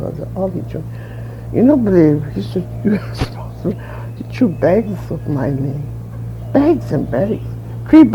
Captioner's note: chuckles